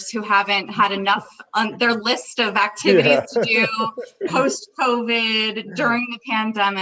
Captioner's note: laughs